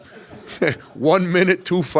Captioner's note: audience laughs